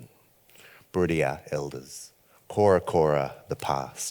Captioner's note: speaks foreign language